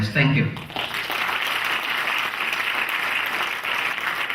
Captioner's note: clapping